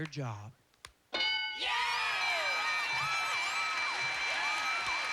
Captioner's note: cheers and applause